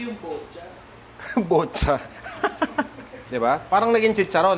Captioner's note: laughs